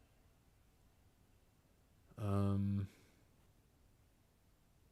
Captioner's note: silence